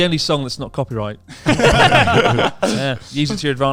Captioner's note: laughs quickly